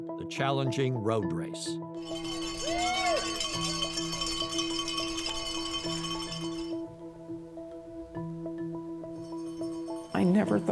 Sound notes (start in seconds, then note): 2.0 bells ringing